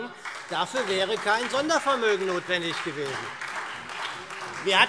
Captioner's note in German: Beifall SPD und Freie Demokraten